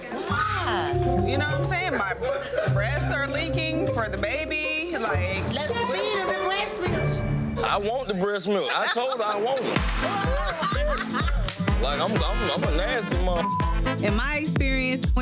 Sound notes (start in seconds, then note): 10.0 woman laughing; 13.4 beep